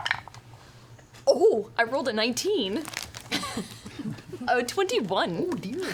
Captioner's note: laughs